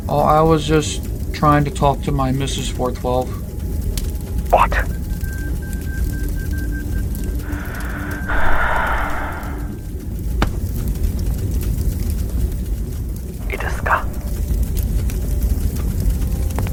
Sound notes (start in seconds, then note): 10.1 sigh; 13.4 foreign language